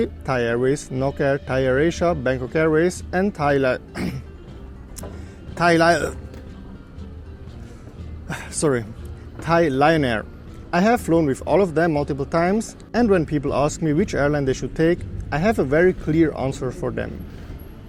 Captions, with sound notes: Thai Airways, Nok Air, Thai Air Asia, Bangkok Airways, and Thai Lio..(uhrg), Thai Lio..(uhhhhhrg) Sorry. Thai Lion Air. I have flown with all of them multiple times and when people ask me which airline they should take, I have a very clear answer for them: